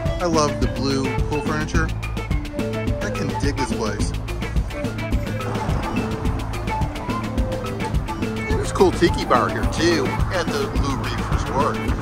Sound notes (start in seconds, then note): 4.0 wind whooshing; 4.6 upbeat music